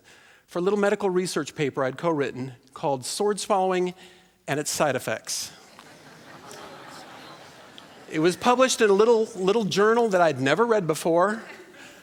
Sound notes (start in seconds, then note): 5.6 laughter